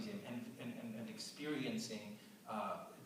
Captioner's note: none